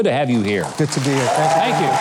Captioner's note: crowd clapping and applauding